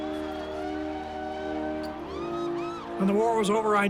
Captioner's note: cheering